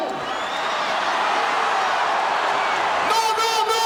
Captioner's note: audience cheering